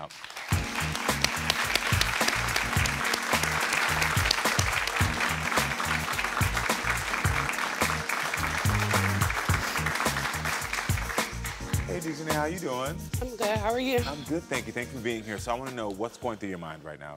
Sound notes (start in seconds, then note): 0.2 audience applauding; 0.2 upbeat music; 8.3 applauding continues